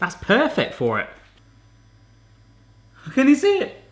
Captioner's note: Smoking Gun buzzing